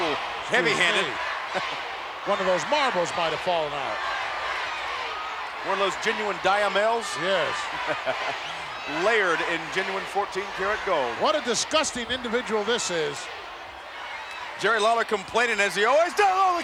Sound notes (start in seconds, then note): 8.4 laughing